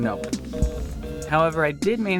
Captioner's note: busy signal